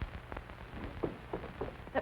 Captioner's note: knocking on door